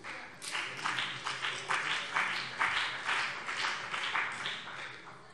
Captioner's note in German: Beifall BÜNDNIS 90/DIE GRÜNEN und vereinzelt CDU